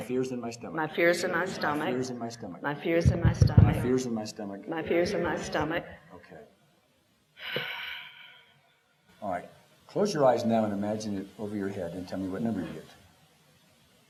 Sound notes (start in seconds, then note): 7.4 exhale